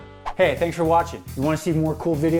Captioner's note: whoosh